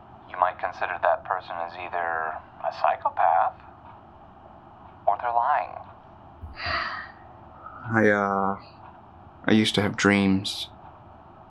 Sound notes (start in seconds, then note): 6.5 exhales heavily